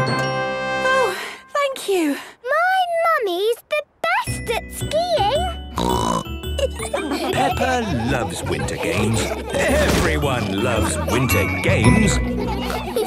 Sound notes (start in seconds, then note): 0.0 triumphant music; 5.8 snorting; 6.5 laughter